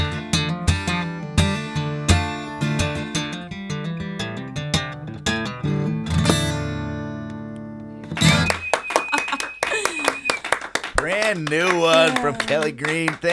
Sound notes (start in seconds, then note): 0.0 melancholy guitar music continues; 8.1 applauding; 9.0 laughing